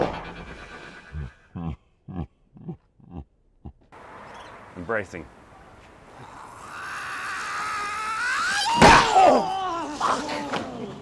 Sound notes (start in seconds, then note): 0.6 cracking Sound; 6.2 screaming in Slow Motion